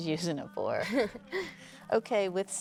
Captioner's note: Claire chuckles